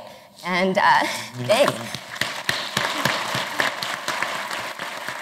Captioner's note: applause